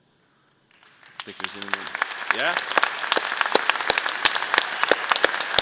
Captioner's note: audience applause